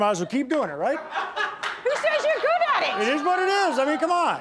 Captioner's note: audience laughing